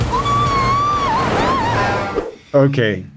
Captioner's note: shouts